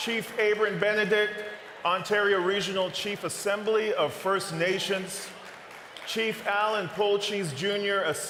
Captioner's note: cheering and applause